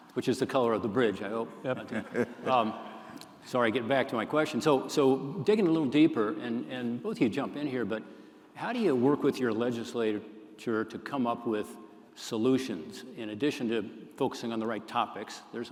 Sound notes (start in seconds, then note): 1.6 laughter